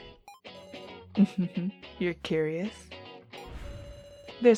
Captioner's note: laughs